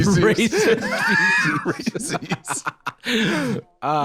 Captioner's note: laughing